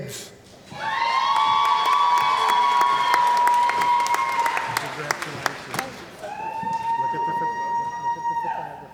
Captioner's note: cheering & Applause